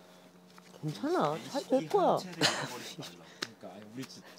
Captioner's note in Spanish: Jajaja